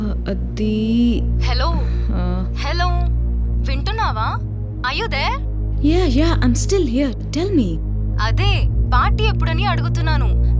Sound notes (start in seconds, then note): none